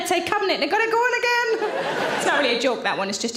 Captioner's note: audience laughing